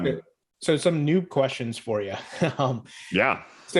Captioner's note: chuckles